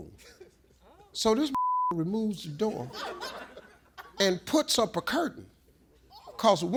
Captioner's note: beep